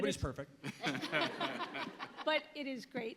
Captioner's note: panelists laughing